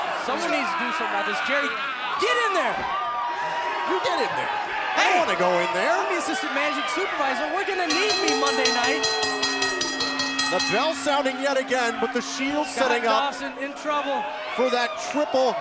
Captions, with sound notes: >> OH, SOMEONE NEEDS TO DO SOME OTHERS--JERRY, GET IN THERE. >> YOU GET IN THERE. >> HEY. >> I DON'T WANT TO GO IN THERE. >> I'M THE ASSISTANT MANAGING SUPERVISOR, WE'RE GONNA NEED ME MONDAY NIGHT. >> [BELL RINGING] >> THE BELL SOUNDING YET AGAIN, BUT THE SHIELD SETTING UP...